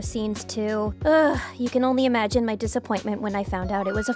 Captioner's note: groans